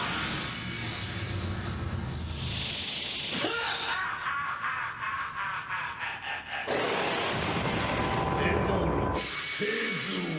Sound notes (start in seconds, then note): 3.8 hahaha